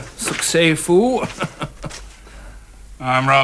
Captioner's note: chuckles